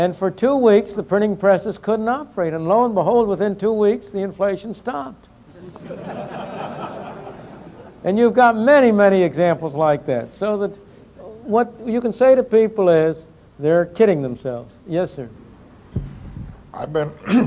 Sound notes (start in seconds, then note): 5.5 laughter